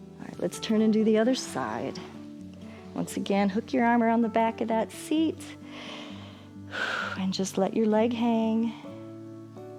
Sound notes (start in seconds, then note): 5.6 inhales and exhales